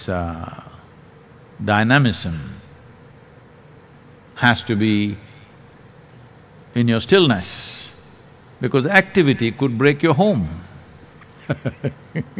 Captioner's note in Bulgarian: смях